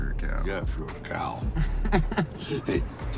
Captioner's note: Tyson laughs